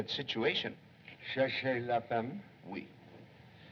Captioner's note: French